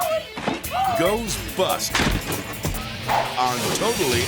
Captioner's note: person thuds